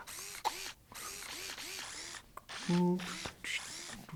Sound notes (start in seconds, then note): 0.1 robot squeaks; 2.8 man hums